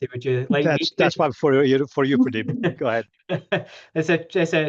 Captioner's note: faintly speaking; laughing